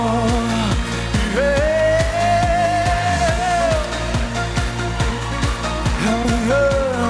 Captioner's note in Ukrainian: оплески; оплески